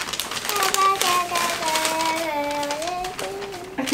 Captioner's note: Babbles